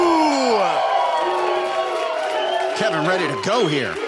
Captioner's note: audience cheers and boos